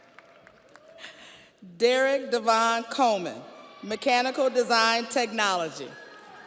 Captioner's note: audience applauds; audience cheers